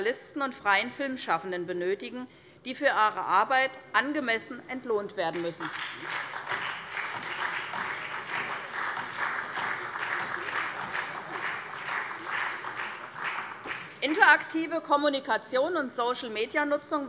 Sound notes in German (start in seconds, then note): 5.3 Beifall SPD und vereinzelt DIE LINKE